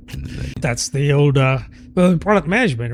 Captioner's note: uh